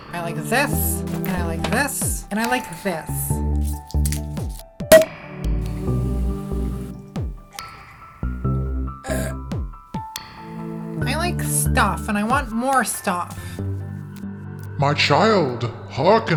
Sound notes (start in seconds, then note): 9.0 belch